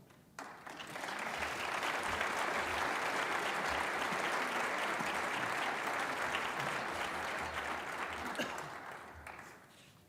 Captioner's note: applause